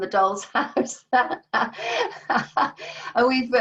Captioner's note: laughs